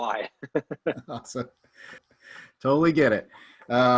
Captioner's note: both laughs